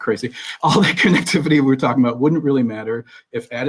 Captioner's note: laughs